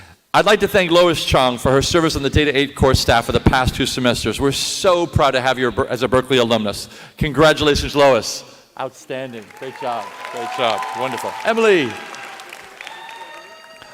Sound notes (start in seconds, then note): 9.0 applause